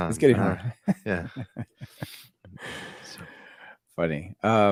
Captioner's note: laughter